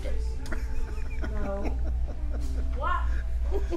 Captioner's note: laughs